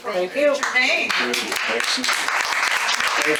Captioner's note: audience applauding